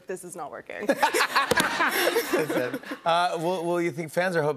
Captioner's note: laughter